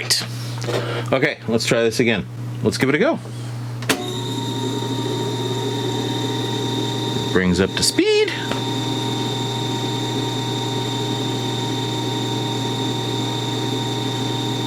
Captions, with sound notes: Right? Okay. Let's try this again. Let's give it a go. (tape recorder whirring) Brings up to speed. (tape recorder whirring)